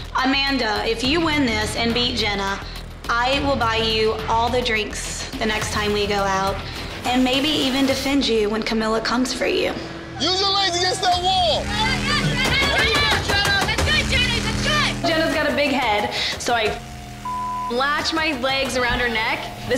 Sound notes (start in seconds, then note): 17.2 beep